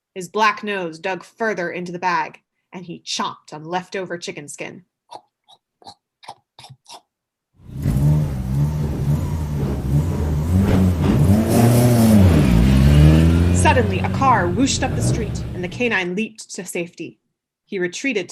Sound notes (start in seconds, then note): 6.5 chomping sound effect/actor; 7.7 car wooshing sound